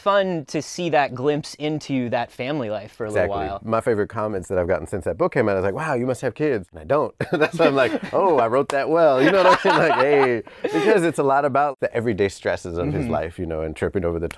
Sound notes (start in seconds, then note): 7.2 laughing